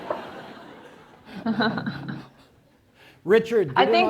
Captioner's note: laughter